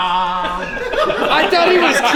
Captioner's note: laughter